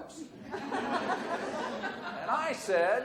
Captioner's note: audience laughs